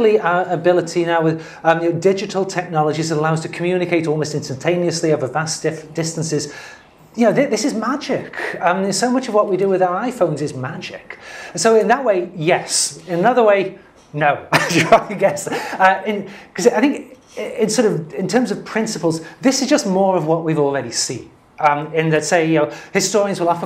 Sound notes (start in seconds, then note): 14.5 laugh